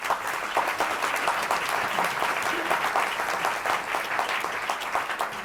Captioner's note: applause